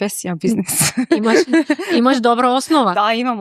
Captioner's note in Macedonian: смеа